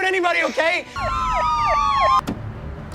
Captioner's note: pig car squeals it’s sirens